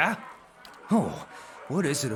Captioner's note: shudders